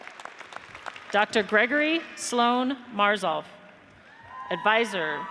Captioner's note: audience applauds; audience cheers